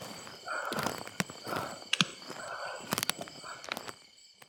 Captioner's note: footsteps crunching